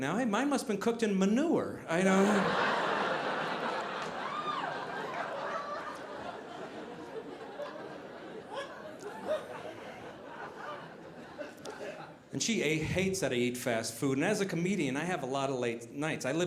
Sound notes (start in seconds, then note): 2.9 audience laughing